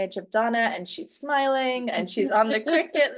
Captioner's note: laughing